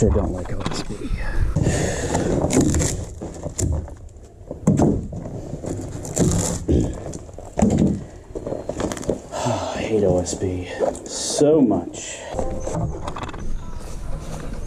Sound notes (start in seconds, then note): 1.5 crunchy wood removal noises; 9.3 breathing